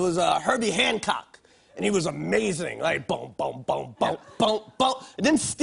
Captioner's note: imitates keytar playing